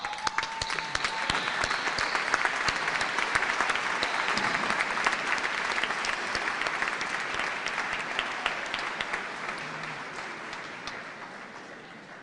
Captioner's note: cheers and applause